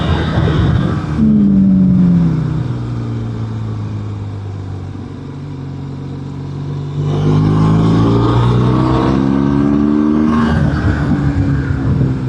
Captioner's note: engine